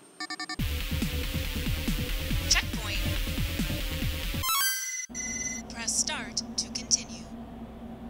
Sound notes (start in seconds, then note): 0.8 racing video game sounds; 4.4 phone rings